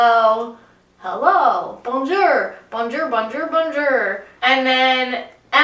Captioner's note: awful American accent